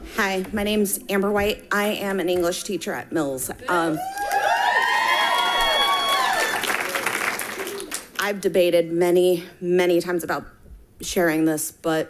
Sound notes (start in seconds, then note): 3.9 people cheering and clapping